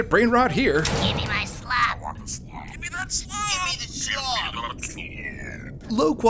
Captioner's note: slop meme audio from phones